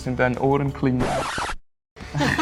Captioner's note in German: record scratch; Alle lachen